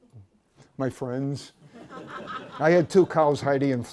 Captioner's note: laughter